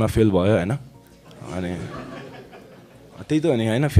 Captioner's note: audience laughs